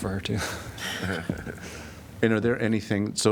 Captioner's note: laughter